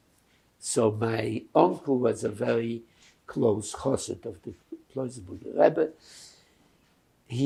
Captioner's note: yiddish